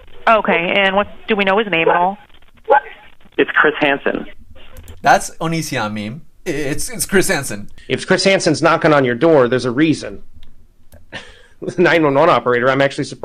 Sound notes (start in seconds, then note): 7.0 laughs; 11.1 laughs